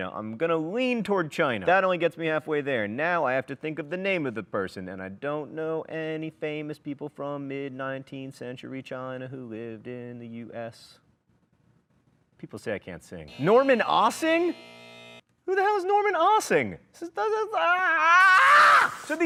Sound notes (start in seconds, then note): 13.2 buzzing